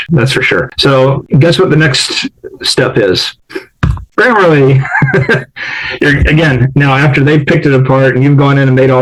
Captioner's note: laughs